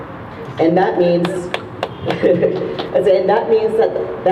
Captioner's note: laughs